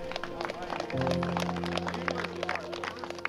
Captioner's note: claps